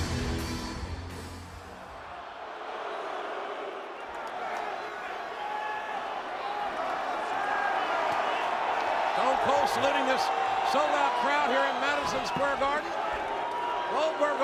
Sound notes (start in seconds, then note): 1.7 audience chattering